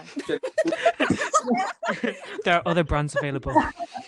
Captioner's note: laughter